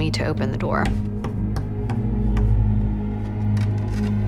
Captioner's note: tapping